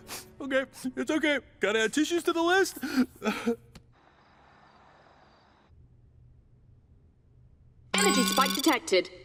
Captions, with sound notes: [sobbing] Okay. It's okay. Got to add tissues to the list.